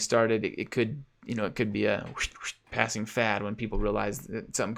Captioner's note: imitates whooshing